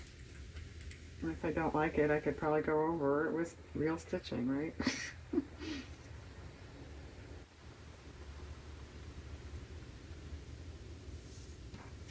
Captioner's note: laughs